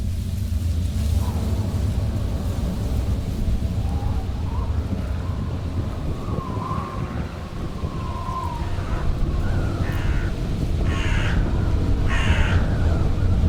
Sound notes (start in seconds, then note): 1.1 wind blowing; 10.7 crows cawing